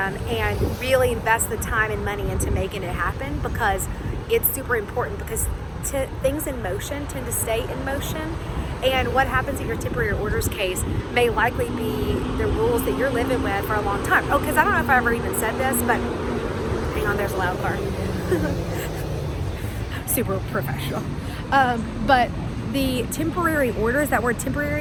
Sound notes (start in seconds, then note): 17.7 laughs